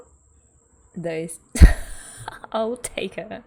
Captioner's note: laughs